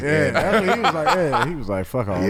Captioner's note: laughing